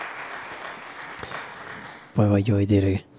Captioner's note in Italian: Applauso